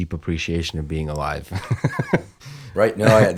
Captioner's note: laughter